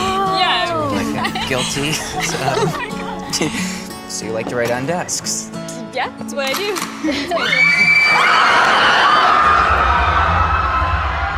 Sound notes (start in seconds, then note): 6.5 gun cocking